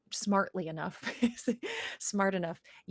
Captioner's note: laughs